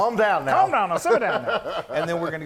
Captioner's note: laugh